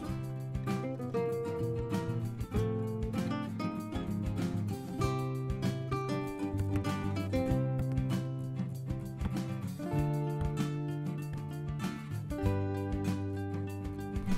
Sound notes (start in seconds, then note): 9.2 pop